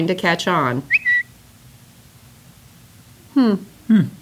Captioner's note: whistle